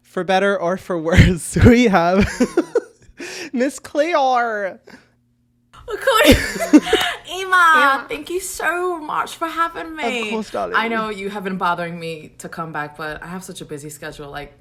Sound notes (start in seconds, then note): 3.2 laughs